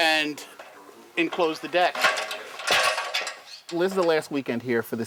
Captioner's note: rattling noise